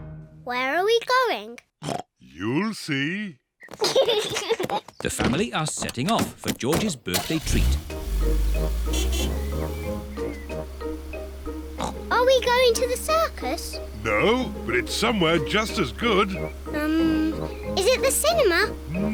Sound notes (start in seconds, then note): 1.8 oinks; 3.7 kids giggle; 7.2 horn honks; 11.7 oinks